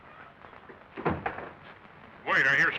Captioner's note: clattering nearby